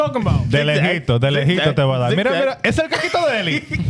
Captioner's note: speaking In Foreign Language